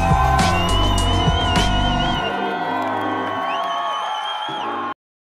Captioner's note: cheering